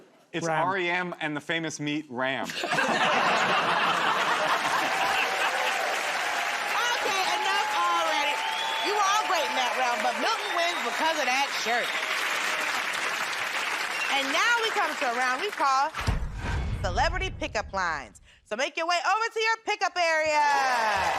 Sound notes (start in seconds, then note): 2.4 laughter; 5.3 cheers and applause